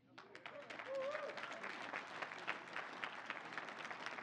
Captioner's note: crowd applauds